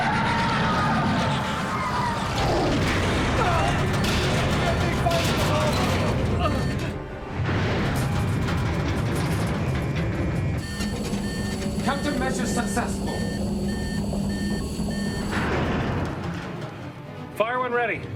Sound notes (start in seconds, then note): 0.0 crowd; 2.7 moan; 7.7 gunshot